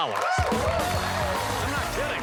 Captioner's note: cheers and applause